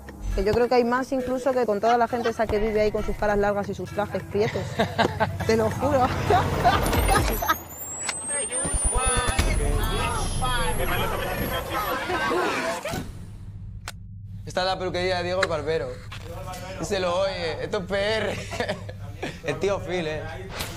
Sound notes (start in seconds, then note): 5.8 laughs; 7.8 voices and noises